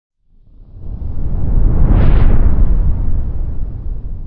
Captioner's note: whooshing sound